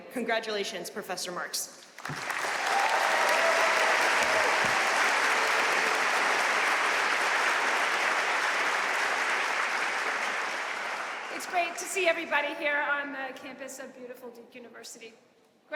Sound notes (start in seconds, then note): 2.0 audience cheering and applauding